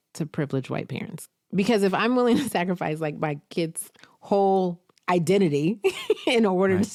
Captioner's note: chuckles